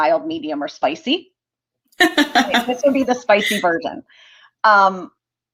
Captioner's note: laughter